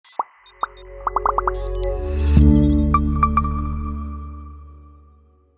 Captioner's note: logo buzzing and beeping; ethereal music